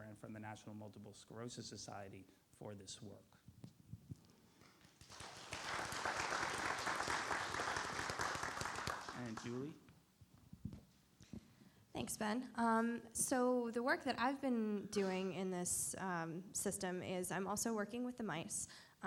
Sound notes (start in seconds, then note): 4.6 audience applauds